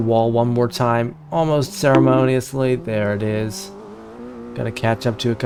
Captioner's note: bonk